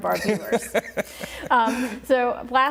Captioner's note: laughing